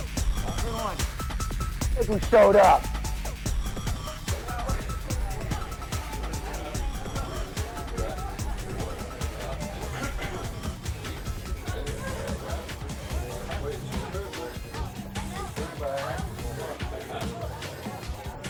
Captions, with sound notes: - Look who showed up. (people chattering) (upbeat music)